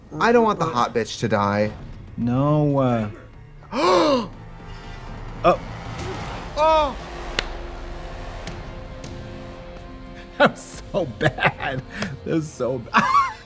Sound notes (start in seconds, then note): 3.6 Trixie gasps; 5.8 tense dramatic music; 6.8 Trixie gasps; 7.4 Katya claps